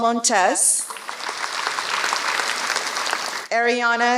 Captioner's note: applause